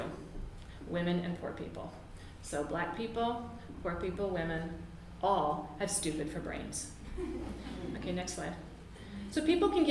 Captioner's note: audience laughs